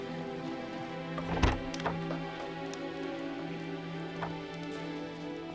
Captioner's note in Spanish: pestillo de la puerta retumbando